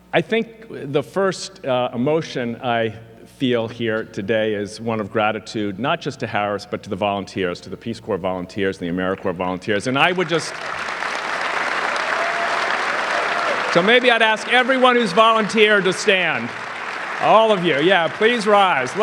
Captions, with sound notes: I think the first emotion I feel here today is one of gratitude, not just to Harris, but to the volunteers, to the Peace Corps volunteers and the AmeriCorps volunteers. And I would just... (audience clapping) So maybe I'd ask everyone who's volunteered to stand. All of you, yeah, please rise.